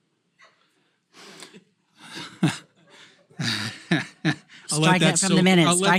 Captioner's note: laugh